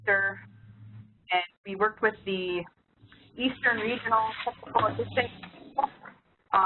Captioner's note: signal loss